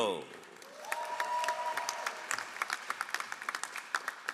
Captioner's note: all applauding